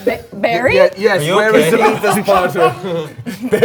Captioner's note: all laughing